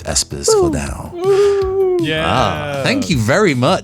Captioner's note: cheers